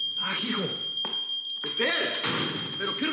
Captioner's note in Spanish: Suena la alarma